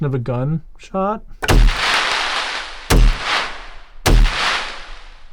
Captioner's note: gun firing